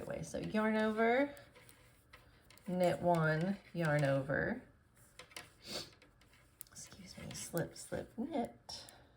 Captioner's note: sniffles